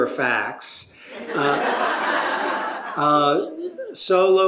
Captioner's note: laughter